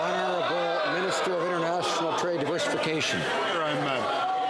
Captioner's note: some Applause